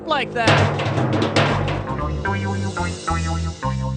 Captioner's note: clunking